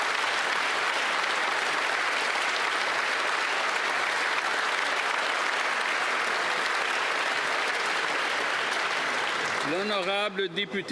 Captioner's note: applause